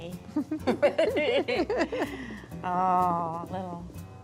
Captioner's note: giggling